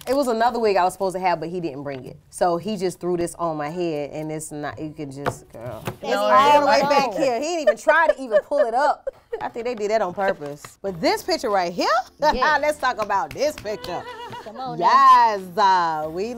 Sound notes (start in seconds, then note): 6.4 laughs; 13.8 laughing